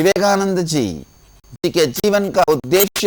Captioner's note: hindi